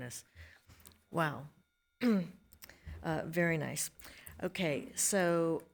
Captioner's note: clears throat